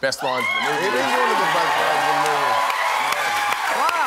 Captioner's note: applause